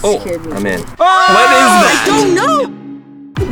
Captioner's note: screaming